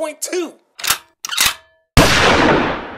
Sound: radio FX - gun reload and shoots

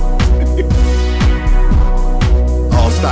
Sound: laughs

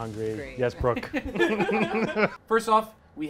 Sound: laugh

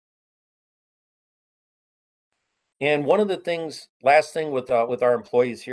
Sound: A pause

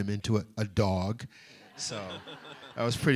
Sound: laughter

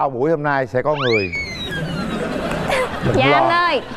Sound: audience laugh

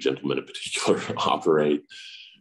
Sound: laughs

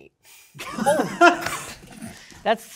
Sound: participants applauding

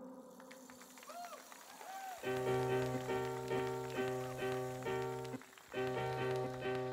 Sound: audience cheering; upbeat electric music

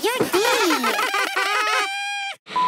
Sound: laughing

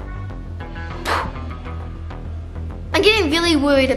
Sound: imitating explosion

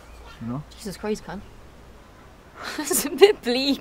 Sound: laughing

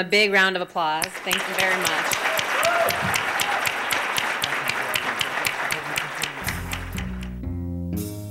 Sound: applause

